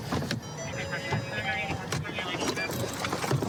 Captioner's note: car door chiming